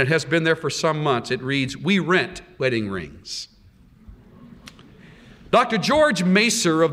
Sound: laughter

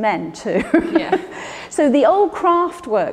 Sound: Ruth laughs

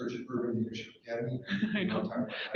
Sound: people laugh

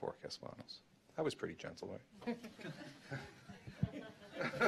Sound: laughter

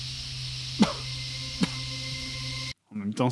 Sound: cough

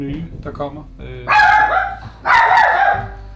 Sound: dog barking

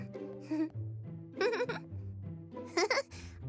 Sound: chuckles

